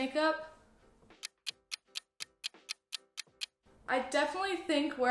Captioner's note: clock ticking